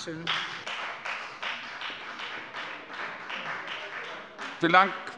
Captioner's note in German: Beifall bei der FDP